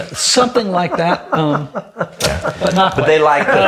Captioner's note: laughs